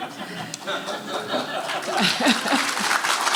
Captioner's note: applause